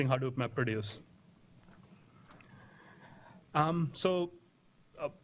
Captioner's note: pause